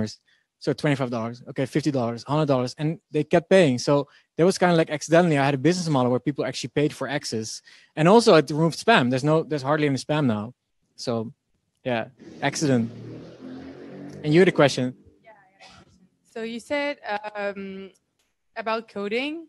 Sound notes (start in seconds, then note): none